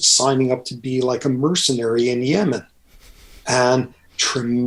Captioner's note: Andrew laughs